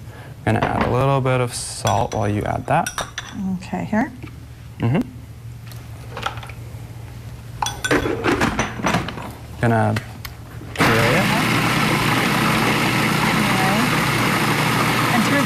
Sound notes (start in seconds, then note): 5.9 spoon tapping; 7.4 closing food processor; 10.7 food Processing Sound